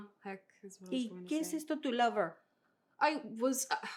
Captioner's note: Spanish